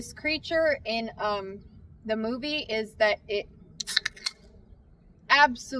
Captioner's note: dr pepper can cracks